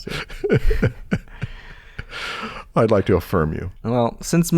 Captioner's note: laughter